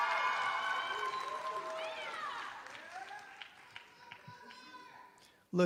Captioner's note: applause